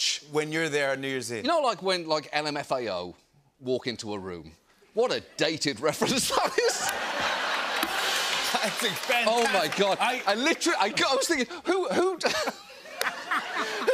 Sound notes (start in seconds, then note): 6.0 laughter; 6.7 rim shot; 12.5 laughter